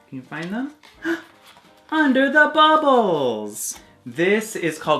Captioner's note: gasps